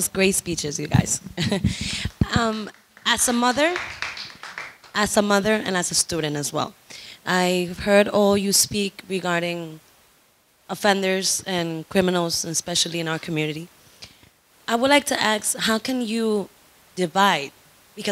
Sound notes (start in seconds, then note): 2.1 audience applauds